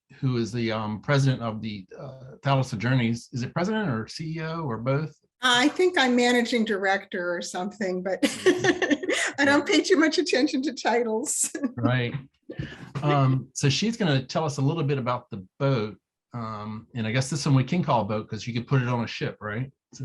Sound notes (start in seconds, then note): 8.1 laughs